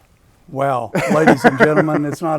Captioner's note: laughing